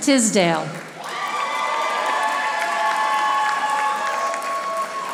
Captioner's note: audience applauding